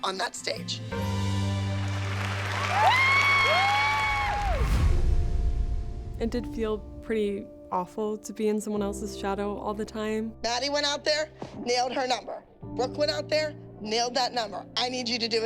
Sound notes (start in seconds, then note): 0.9 music fades; 1.6 cheers and applause